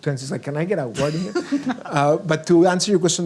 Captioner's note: laughs